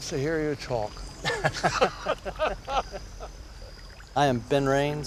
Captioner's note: laughter